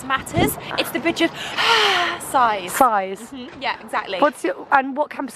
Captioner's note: sighs